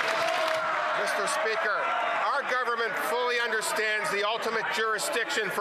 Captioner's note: some Applause